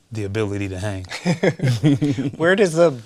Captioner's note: both laugh